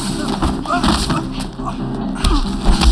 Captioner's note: groans